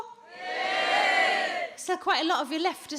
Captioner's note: audience soft cheers